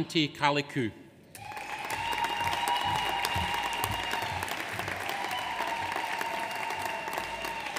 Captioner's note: audience applauds; audience cheers